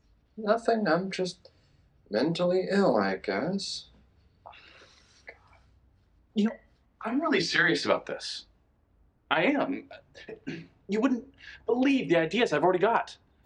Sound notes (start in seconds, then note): 9.5 stammers